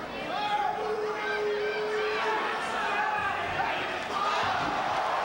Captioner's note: spectators cheering; spectators exclaiming